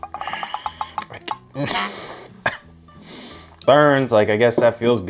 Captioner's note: coughs